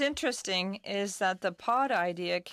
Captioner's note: speaking in French